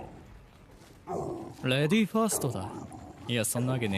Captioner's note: Gloink Queen groaning